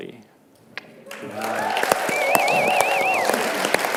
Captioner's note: cheering